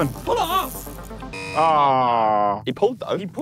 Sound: buzzer buzzes

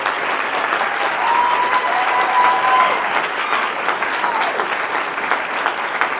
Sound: applause

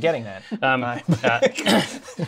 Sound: laughter

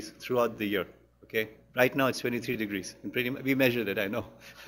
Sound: laughs

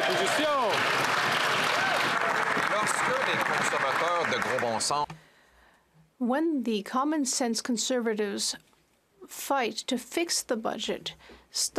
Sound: speaking French

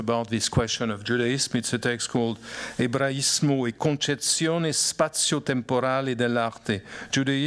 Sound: speaking italian

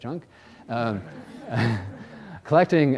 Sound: audience laughs

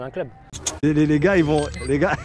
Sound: both laughing

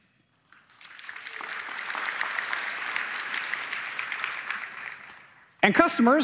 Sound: applause

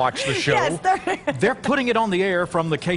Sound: laughter

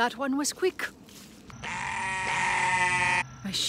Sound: sheep screaming

